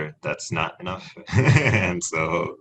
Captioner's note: laughs